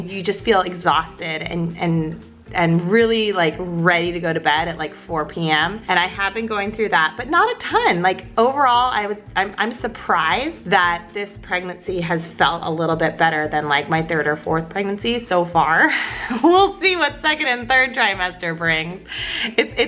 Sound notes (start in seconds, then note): 16.2 laughs